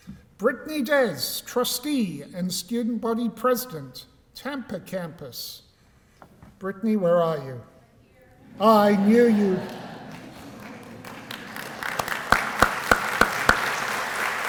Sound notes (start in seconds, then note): 8.5 laughter; 11.0 applause